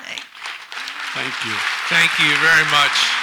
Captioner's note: audience applauds